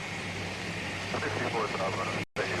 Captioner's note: police radio chattering